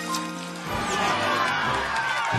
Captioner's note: applause